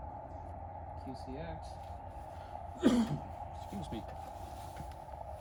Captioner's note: cough